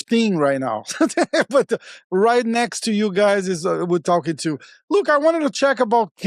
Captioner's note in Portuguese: risos